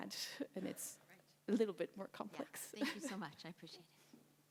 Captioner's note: laughs